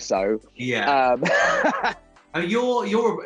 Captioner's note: laughing